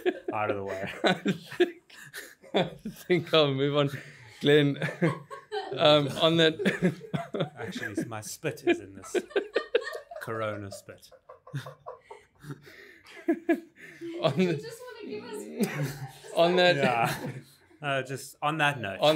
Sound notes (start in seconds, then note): 0.0 laughing; 6.6 laughing; 14.1 laughing & inaudible talking